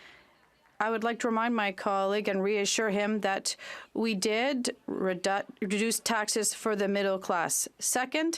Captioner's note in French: applaudissements